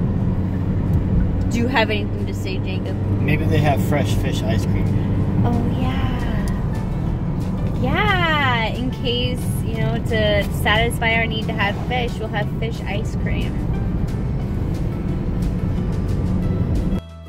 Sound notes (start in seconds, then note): none